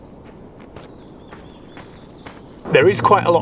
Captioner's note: footsteps crunching